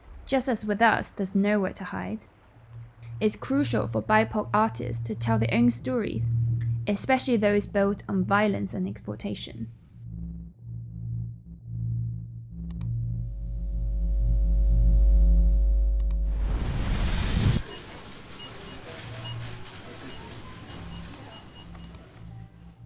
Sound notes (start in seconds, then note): 16.2 explosion whooshes; 18.3 beeping and clattering; 21.8 mouse clicks